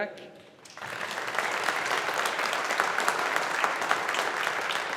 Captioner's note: audience applauding